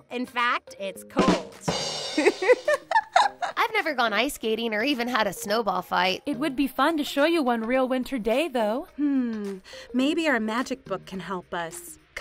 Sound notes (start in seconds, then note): 1.2 rim shot rattles; 2.1 Barbie laughs